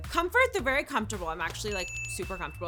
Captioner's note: bell ringing